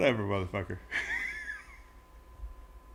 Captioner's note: laugh